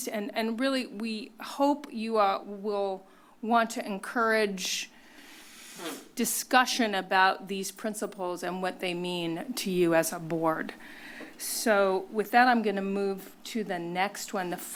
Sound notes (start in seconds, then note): none